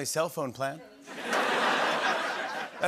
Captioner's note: laughter